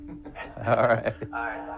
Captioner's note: chuckles